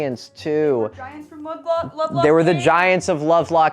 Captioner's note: sarcastically